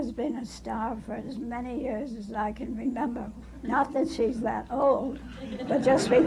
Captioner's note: laughter